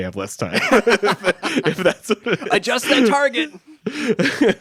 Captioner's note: chuckles